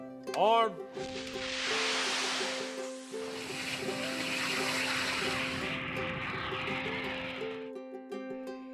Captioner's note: sound of rockets taking off and jet engines